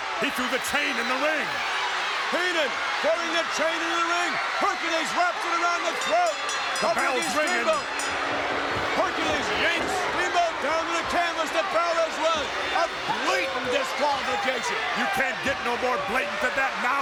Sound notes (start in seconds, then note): 5.3 bell rings